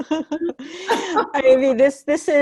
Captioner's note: chuckling